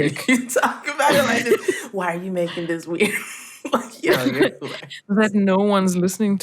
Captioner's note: laughter